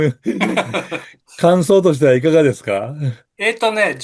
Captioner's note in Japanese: 笑い